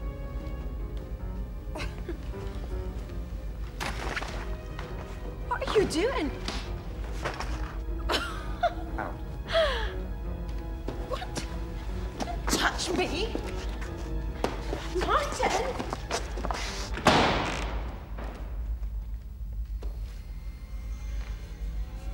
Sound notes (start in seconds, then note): 0.2 tense orchestral music; 6.9 bag thudding; 8.0 Caroline laughs incredulously; 17.0 door thudding; 19.8 eerie orchestral music